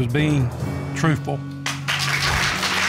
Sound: audience applauds

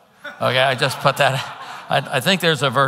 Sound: congregants laughing

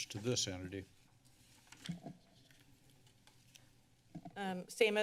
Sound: paper rustling

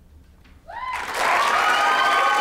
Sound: applause

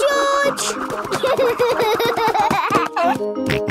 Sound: giggling; snorting

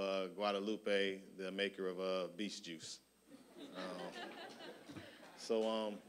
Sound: audience laughing

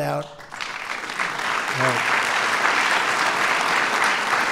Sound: applause

